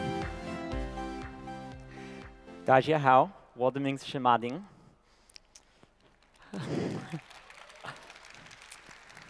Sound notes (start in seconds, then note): 3.5 non-english speech; 6.0 applause